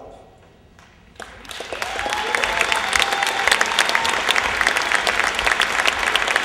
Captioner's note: applause